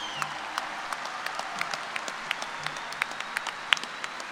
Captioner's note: applause